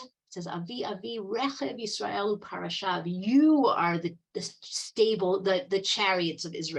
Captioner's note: speaking Hebrew